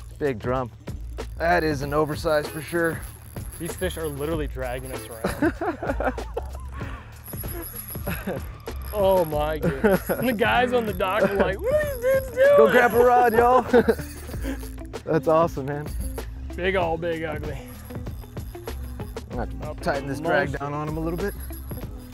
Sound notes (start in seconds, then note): 5.2 laughing